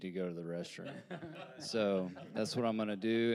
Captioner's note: panelists laughing